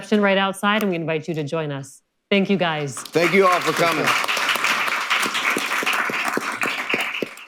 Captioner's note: applause